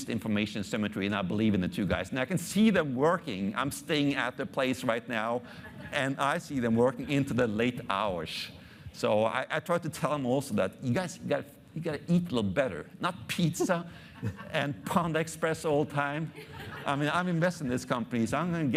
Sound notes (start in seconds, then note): 16.2 audience laughing